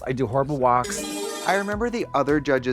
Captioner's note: bright chime